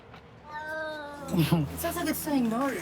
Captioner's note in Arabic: مواء القط